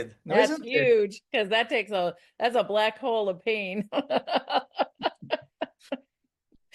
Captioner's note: laughs